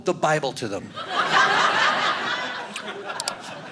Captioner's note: audience laughing